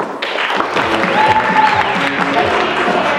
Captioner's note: applause